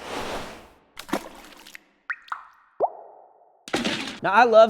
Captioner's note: whooshing; splashing; plopping